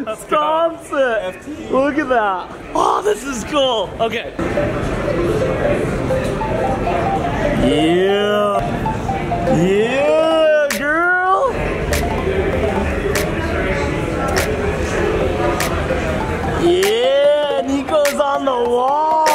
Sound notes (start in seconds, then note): 4.4 upbeat electronic music; 5.1 attendees chattering